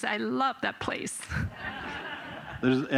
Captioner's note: laughter